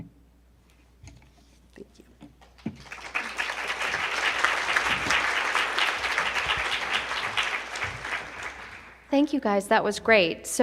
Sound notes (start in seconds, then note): 4.1 attendees applauding